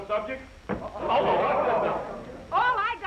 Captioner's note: all chattering